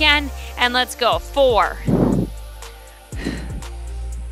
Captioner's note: exhales